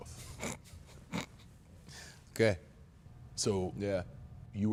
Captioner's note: chuckles